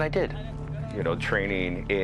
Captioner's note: soldiers chatter